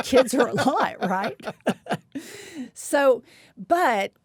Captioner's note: laughs